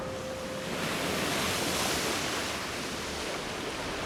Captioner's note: water lapping